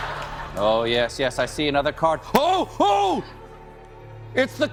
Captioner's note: laughter